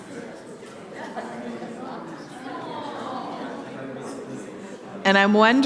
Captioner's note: audience chattering